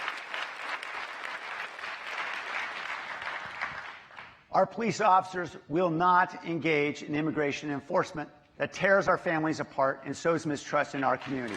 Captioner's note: applause